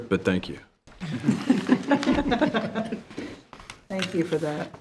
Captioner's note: members laughing